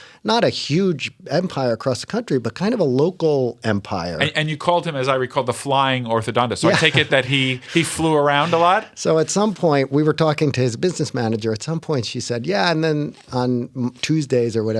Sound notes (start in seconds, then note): 6.6 laughter